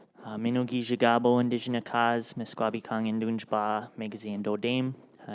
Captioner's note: speaks in Ojibwemowin